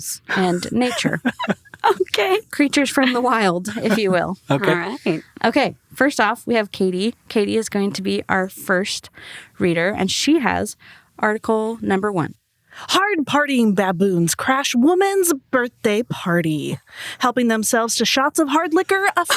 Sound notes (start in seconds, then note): 0.3 laugh